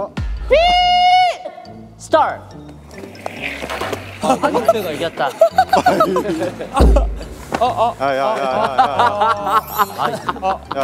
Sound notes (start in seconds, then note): 6.7 crashing; 9.4 laughing